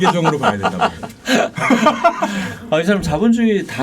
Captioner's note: laughing